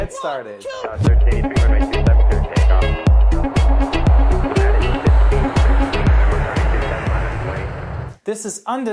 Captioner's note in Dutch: Jet opstijgen